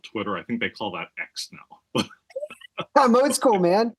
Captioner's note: laugh